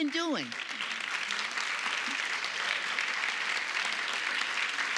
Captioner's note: audience applauding